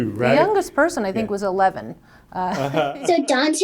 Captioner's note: laughs